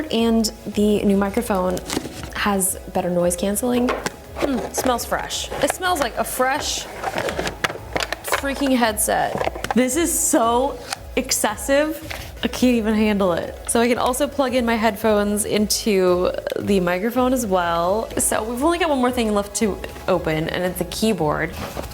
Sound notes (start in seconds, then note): 7.3 cords clatter